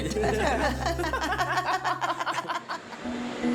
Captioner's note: laughter